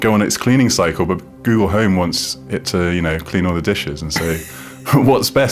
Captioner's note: laughs